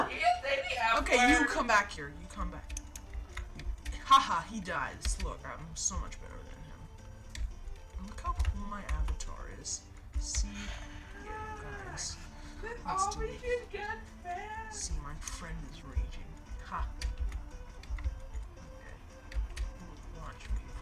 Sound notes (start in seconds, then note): 11.0 cries